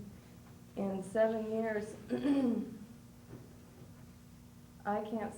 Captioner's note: clears throat